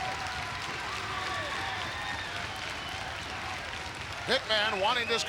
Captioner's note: crowd clapping rhythmically